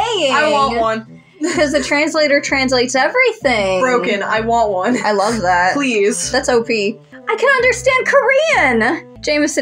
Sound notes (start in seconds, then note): 1.4 chuckle; 4.7 chuckle